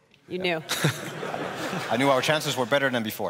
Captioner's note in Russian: смех